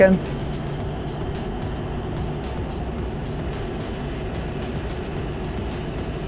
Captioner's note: energetic music; engine droning